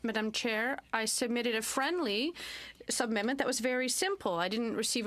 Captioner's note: speaking french